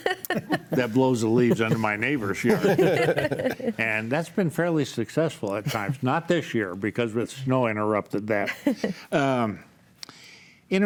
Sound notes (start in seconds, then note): 2.4 laughs; 5.6 group laughs